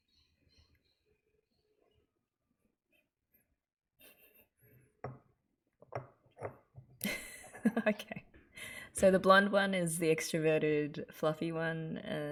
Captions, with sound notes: [laughs] Okay. So the blonde one is the extroverted fluffy one,